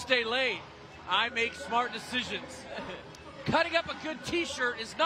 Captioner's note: laughter